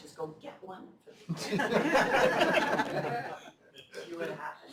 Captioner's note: laughter